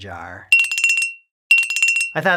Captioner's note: dinglelingleling,dinglelingleling